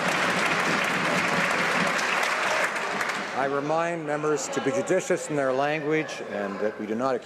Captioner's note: some Applause